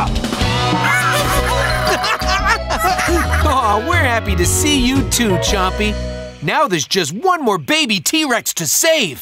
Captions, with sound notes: [laughing] Oh, we're happy to see you, too, Chompy. Now there's just one more baby T-Rex to save.